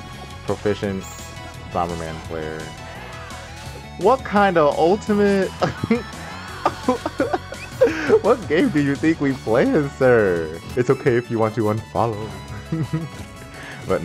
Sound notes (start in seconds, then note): 5.5 laughs; 5.6 wheezing